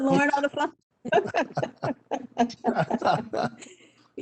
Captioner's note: laughing